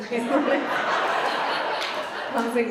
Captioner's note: Vanessa and audience laugh